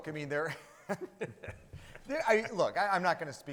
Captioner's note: laughing